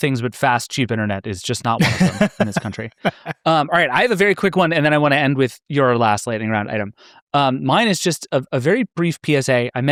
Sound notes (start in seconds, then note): 1.8 laughing